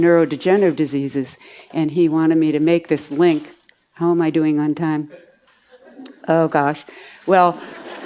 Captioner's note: audience laughs